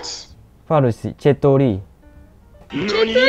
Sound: Farsi

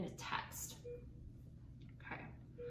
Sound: beeping

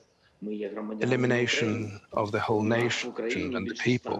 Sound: through translator

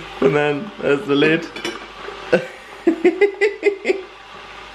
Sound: laughing

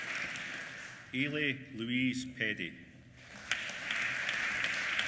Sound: applause

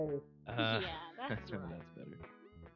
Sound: satisfied Chortling

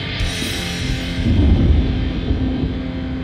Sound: thunder

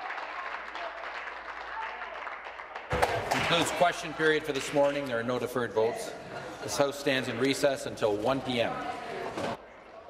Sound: applause

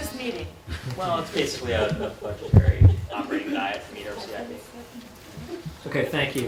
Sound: laugher

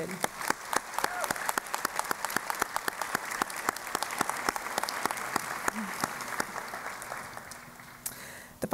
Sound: applause

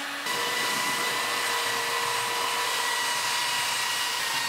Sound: sander whirring

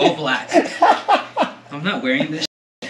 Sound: laughing

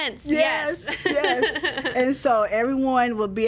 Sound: laughs

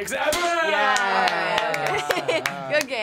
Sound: laughs

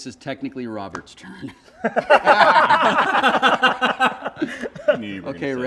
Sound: laughter

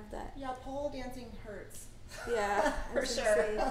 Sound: laughs

